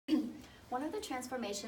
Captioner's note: clears throat